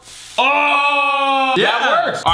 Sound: cheering

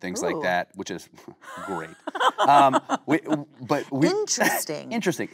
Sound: Kate laughing

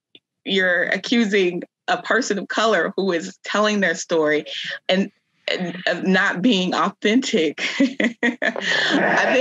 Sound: chuckles

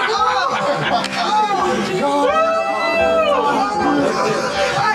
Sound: cheering

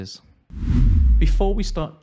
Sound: whooshing

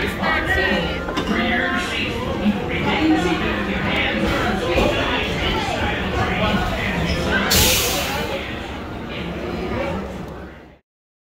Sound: background noises and ride safety info

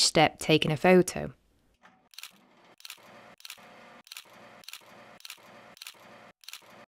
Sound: camera shutter clicking

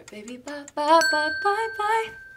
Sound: bell rings

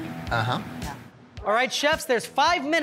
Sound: murmuring in agreement

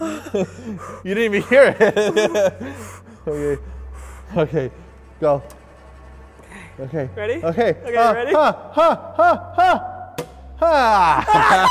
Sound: sigh of relief; nervous scream

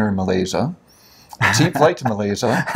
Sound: laughs

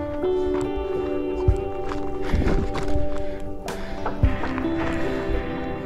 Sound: runners chattering

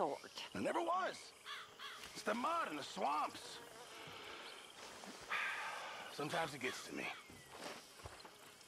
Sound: sighs

